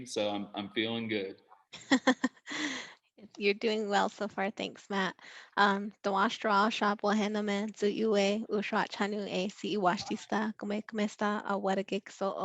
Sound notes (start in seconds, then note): 1.9 laughing silently; 6.2 speaking foreign language